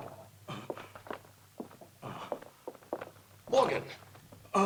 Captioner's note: Morgan gasping